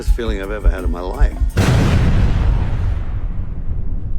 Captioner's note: explosion